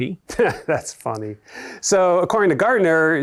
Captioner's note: laughs